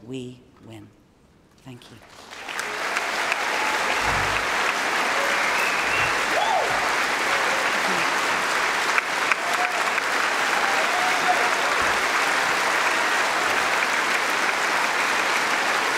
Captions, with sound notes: Because as Nelson Mandela told us on this stage, we are the keepers and we must keep fighting until we win. Thank you. (Cheering & Applause)